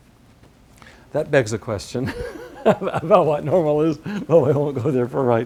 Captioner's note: laugh